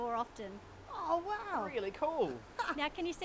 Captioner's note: laughs